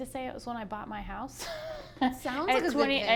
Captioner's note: laughs